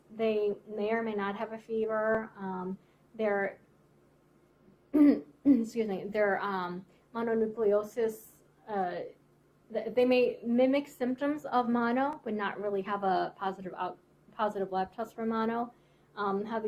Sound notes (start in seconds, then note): 4.9 clears throat